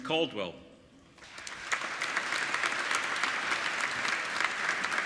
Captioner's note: applauding